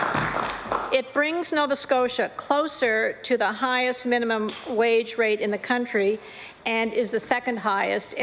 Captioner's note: applause